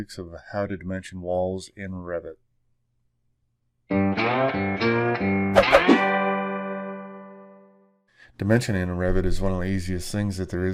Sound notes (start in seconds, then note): 3.8 blues music; 5.5 whip whooshing